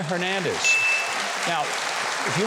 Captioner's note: audience applauding